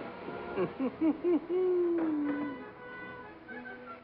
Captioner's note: Satan chuckles